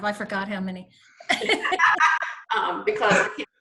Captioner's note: laughter